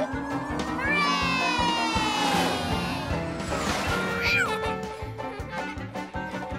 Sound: laughing

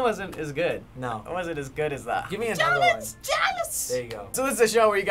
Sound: shrilly

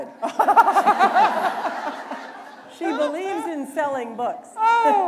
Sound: laughter

